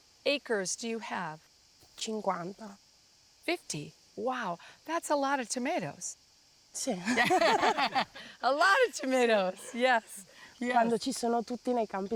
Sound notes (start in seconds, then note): 7.0 laughs